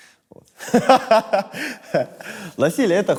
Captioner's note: laughs